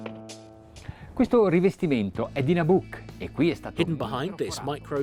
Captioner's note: speaking in foreign language